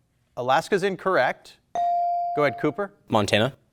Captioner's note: buzzer dings